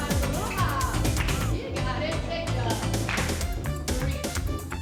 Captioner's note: hands clapping